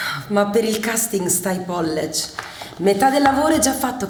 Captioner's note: italian slang